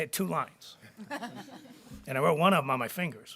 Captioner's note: board members chuckling